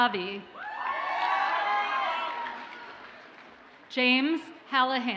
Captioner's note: audience cheers and applauds